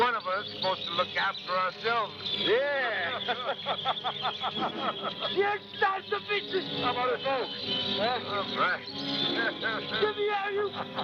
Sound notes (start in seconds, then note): 3.0 laughter